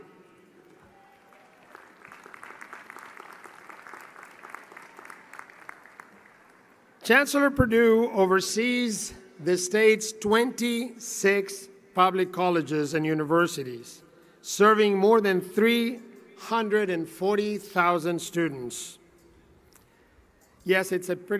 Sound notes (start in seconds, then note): 5.0 applause